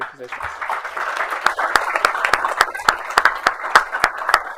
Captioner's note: applause